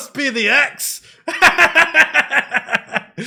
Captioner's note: laughter